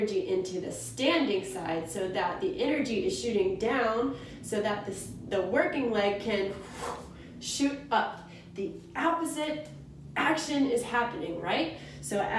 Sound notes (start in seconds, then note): 6.8 exhales